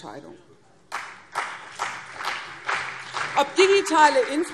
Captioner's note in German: Beifall CDU und BÜNDNIS 90/DIE GRÜNEN